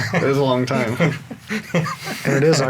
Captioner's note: laughing